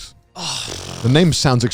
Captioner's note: burping